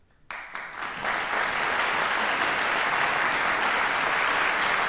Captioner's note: audience applauding